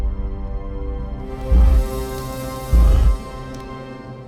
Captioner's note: growls